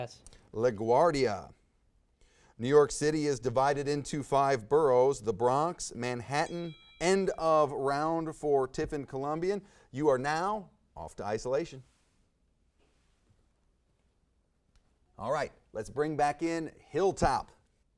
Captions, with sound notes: - Pass. - LaGuardia. New York City is divided into five boroughs. The Bronx, Manhattan. (bell rings) End of round for Tiffin Columbian. You are now off to isolation. All right, let's bring back in Hilltop.